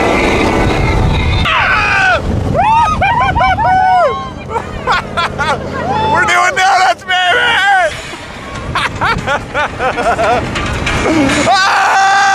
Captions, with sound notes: (yelling and cheering) - (laughs) We're doing doughnuts baby! (laughing and yelling)